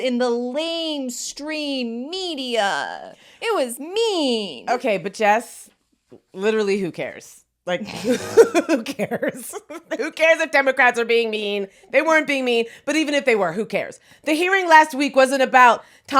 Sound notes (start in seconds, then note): 8.0 both laughing